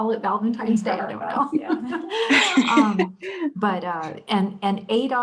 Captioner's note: laughter